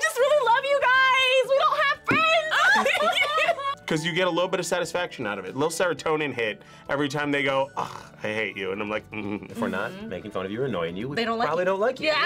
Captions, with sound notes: - We just really love you guys! We don't have friends! (both laugh) - 'Cause you get a little bit of satisfaction out of it. A little serotonin hit every time they go ugh, I hate you. And I'm like mmm. - If we're not making fun of you or annoying you. - They don't like you. - We probably don't like you.